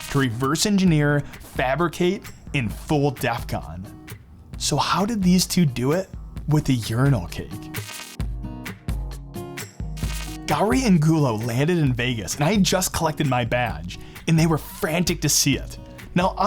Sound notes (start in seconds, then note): 7.6 electric buzzing; 8.7 upbeat music; 9.9 electric buzzing